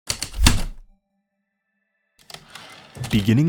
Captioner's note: typewriter keystrokes, return slide